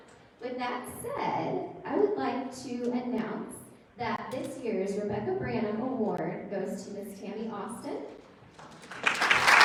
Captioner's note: applause